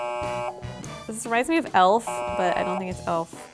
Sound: buzzes

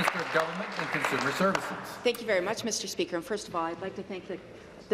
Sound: applause

